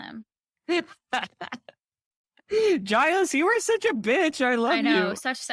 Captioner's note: laughing